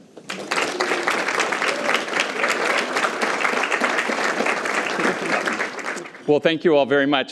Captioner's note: applause